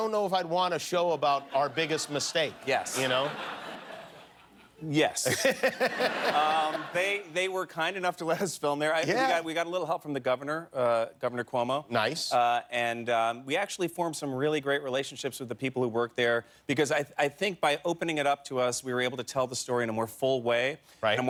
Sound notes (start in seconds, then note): 7.9 laughter